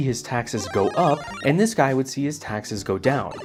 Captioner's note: Mario power down sound; Mario power up sound